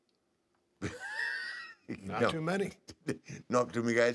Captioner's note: laugh